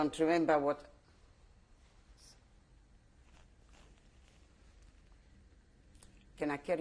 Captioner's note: pauses for 6 seconds